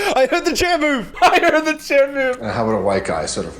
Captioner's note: laughing